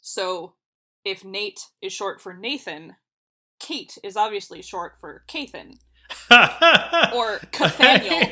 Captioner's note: laughs